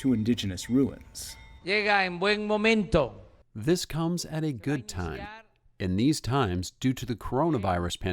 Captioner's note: through translator